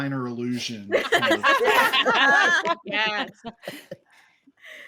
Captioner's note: all laughing